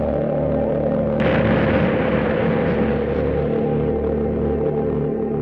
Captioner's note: explosion booming